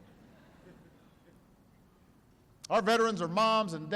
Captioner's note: laughter